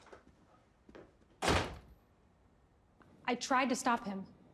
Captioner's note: door banging shut